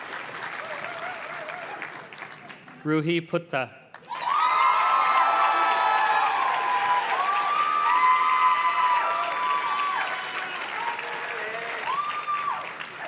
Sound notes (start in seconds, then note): 3.9 audience cheers and claps